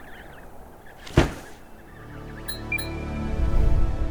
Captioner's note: baby penguins chirping; wind blowing; loud thud; musical drone; metallic "blink" sound effect; short uptempo melody; whoosh